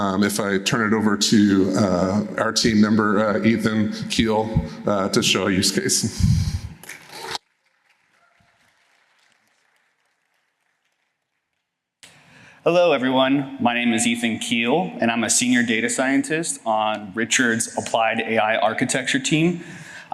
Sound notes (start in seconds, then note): 6.8 applause